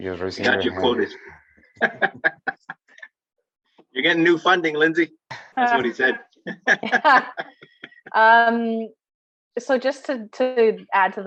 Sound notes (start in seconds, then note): 1.7 laughing; 6.4 laughing